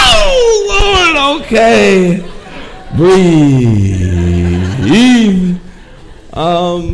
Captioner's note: audience laughing